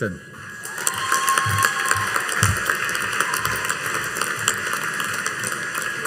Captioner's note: audience cheering and applauding